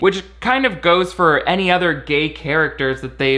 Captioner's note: none